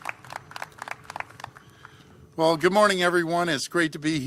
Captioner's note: applause